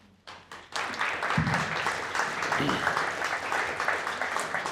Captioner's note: applause